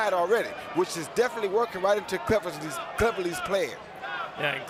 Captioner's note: crowd chanting